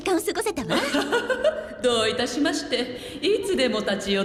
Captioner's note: chuckles